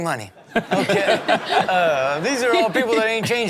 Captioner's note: everyone laughs